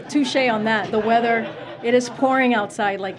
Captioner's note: laughter